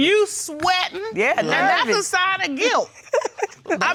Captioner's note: laughs